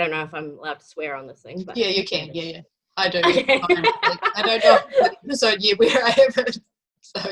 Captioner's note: laughing